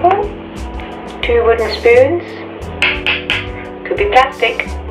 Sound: spoons tap

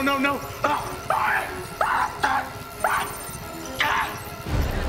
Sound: screaming

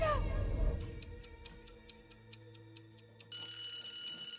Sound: timer ticking

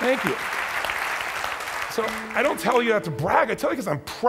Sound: clapping

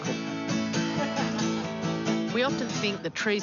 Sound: laughs

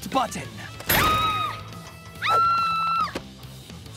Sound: screaming

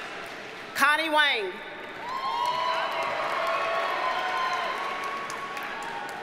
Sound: audience cheers and applauds

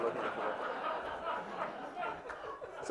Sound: laughter

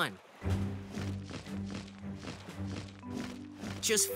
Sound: wings flapping

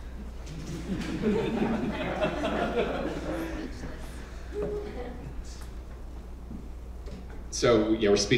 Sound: laugh

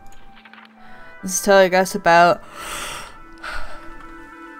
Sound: yawning

